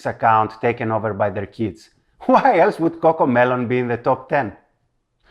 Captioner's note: chuckles